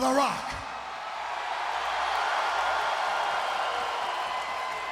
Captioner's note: crowd cheering